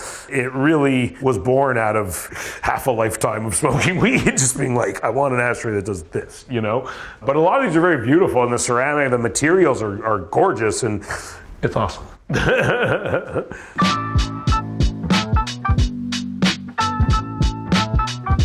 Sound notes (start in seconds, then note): 11.1 laughs; 13.7 funky music